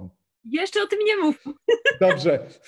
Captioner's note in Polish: śmiech